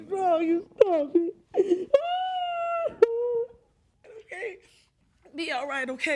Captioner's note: sobbing loudly